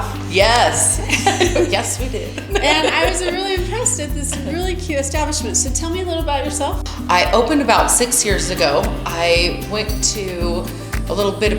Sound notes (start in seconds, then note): 0.6 laughs